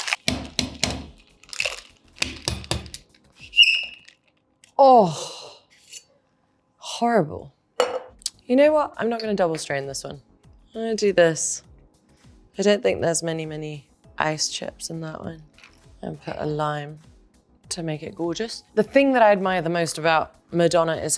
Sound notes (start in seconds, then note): 0.0 container thuds; 3.3 container squeaks